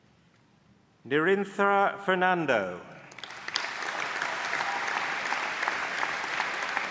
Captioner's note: applause